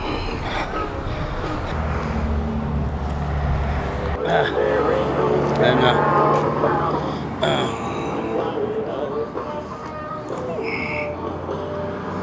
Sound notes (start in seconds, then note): 3.7 radio blaring; 4.0 grunting